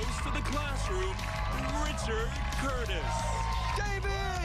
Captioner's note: cheers and applause